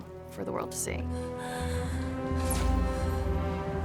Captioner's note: breathing shakily